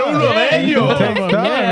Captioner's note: speaking In Foreign Language